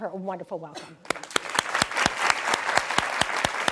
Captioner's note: applause